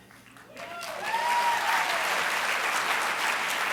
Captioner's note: applause and cheers